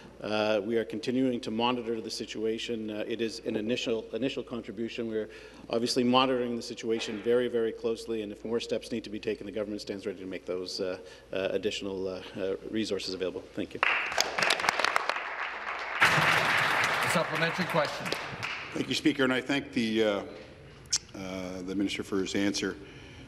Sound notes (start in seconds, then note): 17.5 applause